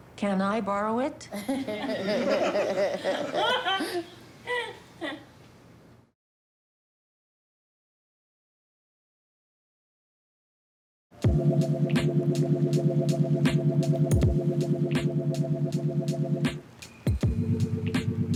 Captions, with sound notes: - Can I borrow it? - (LAUGHTER) - (CHUCKLES) * (LAIDBACK MUSIC)